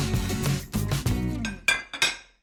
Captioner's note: dishes clatter